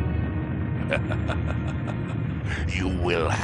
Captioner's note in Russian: смех